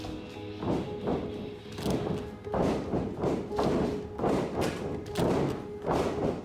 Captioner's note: dramatic music; ring thudding